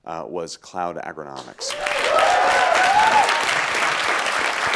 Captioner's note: applause